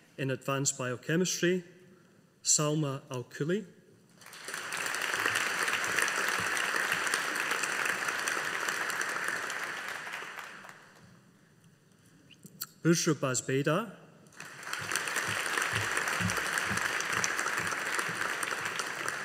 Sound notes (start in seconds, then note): 4.2 audience applauding; 14.3 audience applauding